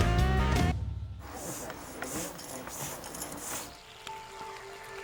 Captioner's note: air pumping; soothing music